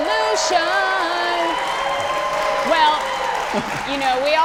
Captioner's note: audience applauding